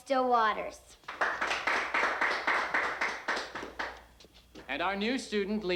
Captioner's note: crowd applauding